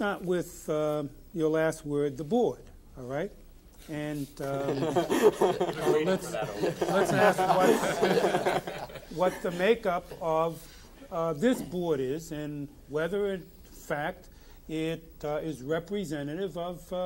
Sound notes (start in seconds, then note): 4.4 all laughing